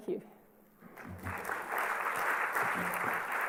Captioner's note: applause